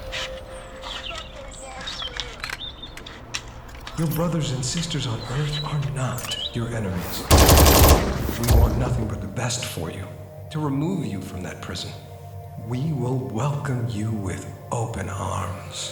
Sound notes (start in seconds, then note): 7.1 pulse rifle firing